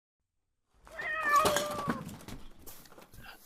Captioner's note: cat meowing